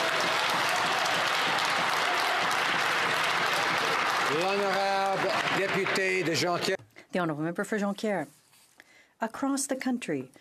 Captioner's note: some Applause